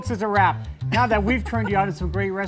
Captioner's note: laughing